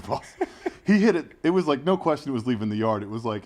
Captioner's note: laugh